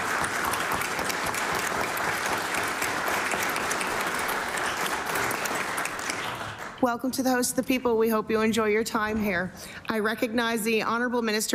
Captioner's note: applause